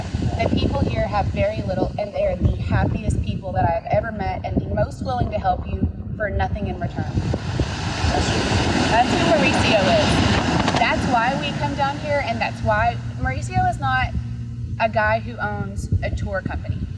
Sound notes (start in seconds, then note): 7.0 waves crashing